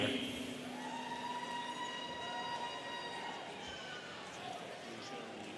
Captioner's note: students cheering